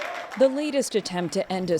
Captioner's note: cheering